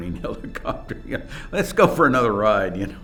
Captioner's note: laughs